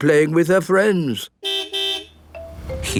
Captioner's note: car beep